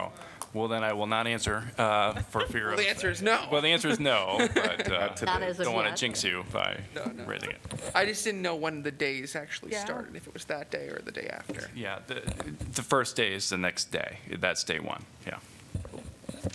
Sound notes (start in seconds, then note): 3.7 laughter